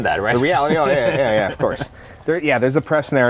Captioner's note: laughter